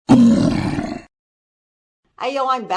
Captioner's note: troll Growl 👺